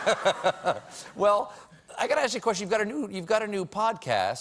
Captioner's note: laughter